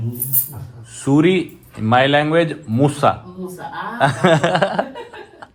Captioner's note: laughing even harder